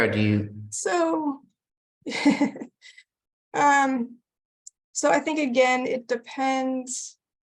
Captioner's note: chuckles